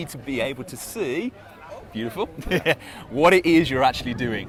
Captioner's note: laughs